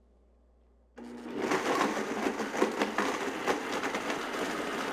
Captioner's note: blender whirring